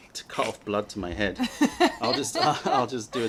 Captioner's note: laughter